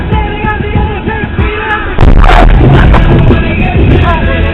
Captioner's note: screeching and bump sound from white car running red light